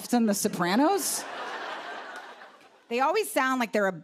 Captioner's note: laughter